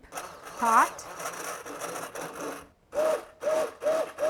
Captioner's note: blender whirring